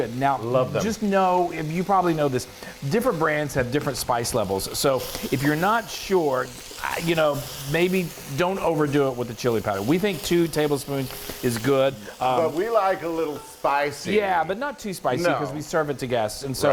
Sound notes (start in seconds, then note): none